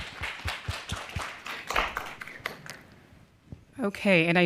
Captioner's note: applause